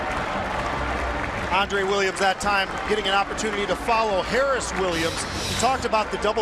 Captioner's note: cheers and applause